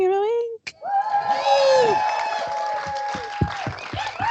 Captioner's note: cheering